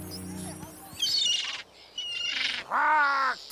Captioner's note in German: Vogel kreischt; Commander kreischt